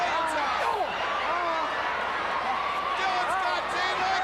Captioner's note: crowd cheering